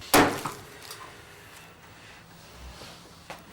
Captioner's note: smacking